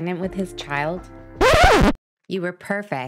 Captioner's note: music stops; record scratch